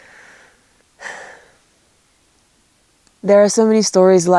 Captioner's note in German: seufzt